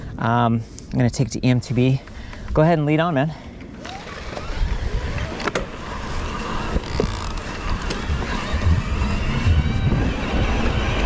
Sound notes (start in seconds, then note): 3.7 bike humming; 3.8 dirt rustling